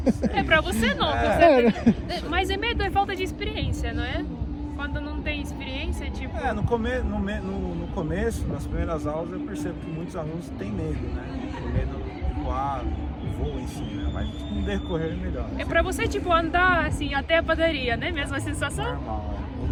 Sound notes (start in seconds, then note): 1.2 laughs